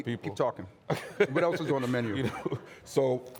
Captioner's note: laughing